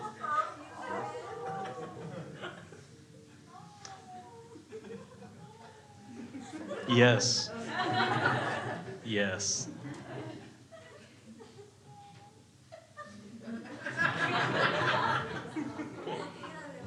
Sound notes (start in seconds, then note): 8.1 crowd laughing; 10.0 crowd groaning; 12.7 crowd laughs